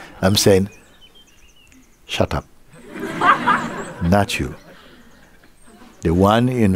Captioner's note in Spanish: Risas